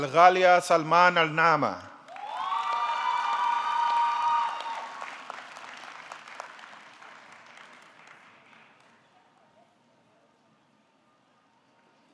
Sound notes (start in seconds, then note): 2.0 audience clapping; 2.1 audience cheering